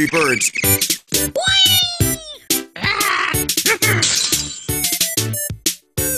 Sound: sound effects

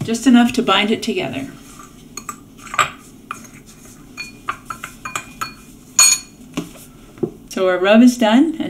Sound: stirring Noise

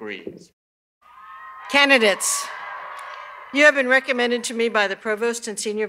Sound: cheers and applause

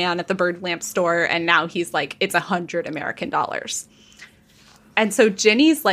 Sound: none

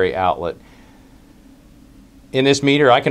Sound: pause

